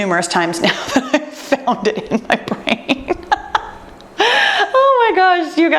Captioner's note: laughs